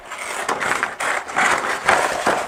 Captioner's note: cutting sounds